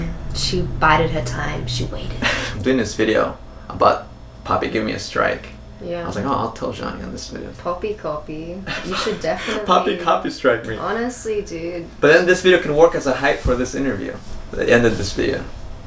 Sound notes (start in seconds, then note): 0.0 laughs